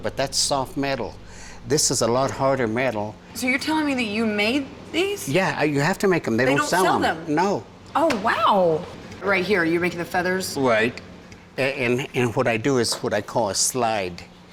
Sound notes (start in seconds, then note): none